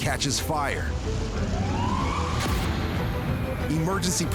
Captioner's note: sirens wailing distantly